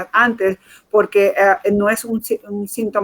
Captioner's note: speaking in Foreign Language